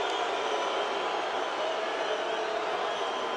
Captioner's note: audience booing